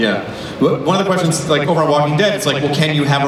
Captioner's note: voiceover